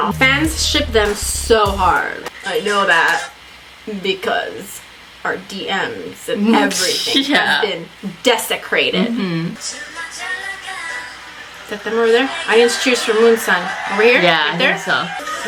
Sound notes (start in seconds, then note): 6.4 laughs